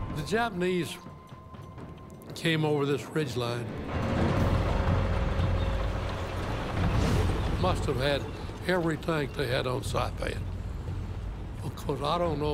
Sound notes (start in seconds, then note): 3.6 tanks rumbling